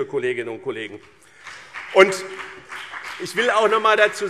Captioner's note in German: Beifall BÜNDNIS 90/DIE GRÜNEN und CDU